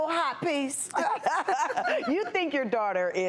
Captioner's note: laughing